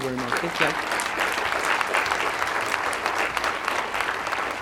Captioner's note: applause